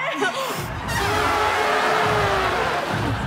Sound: everyone trumpeting

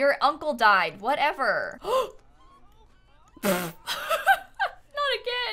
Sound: gasps

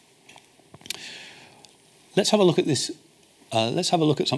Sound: smacks lips

